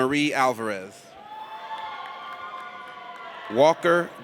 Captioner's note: audience cheers